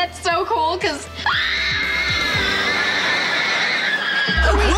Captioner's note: screaming